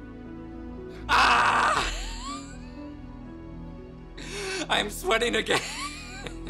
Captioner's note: chuckles